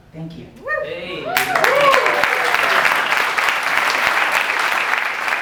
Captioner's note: audience applause